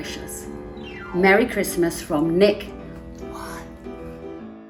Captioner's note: whispered